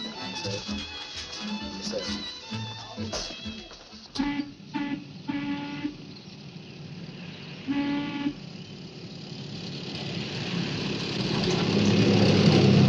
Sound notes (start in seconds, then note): 3.9 steam whistle blowing; 10.2 bus engine whirring